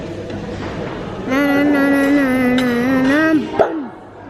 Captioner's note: babbling